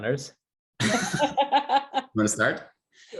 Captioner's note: all laugh